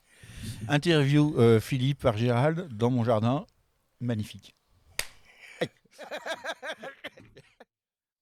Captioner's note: laughs